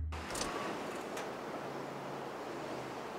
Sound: engine shuts off

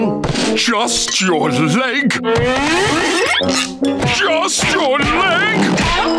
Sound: none

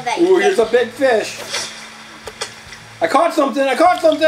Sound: fishing lure splashing

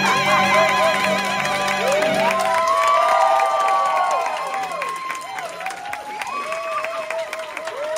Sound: cheers, applause

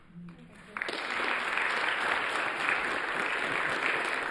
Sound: audience applauds

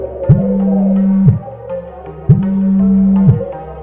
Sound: phone vibrates

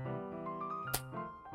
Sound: weak clap

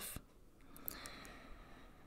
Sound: sighs

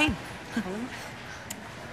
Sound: scoffs

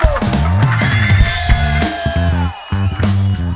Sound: audience cheers

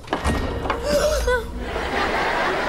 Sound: gasping

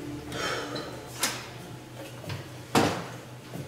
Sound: sighing

